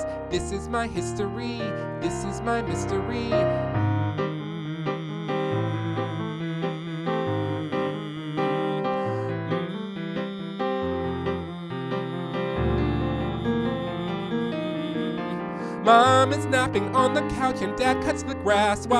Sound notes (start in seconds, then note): 4.1 humming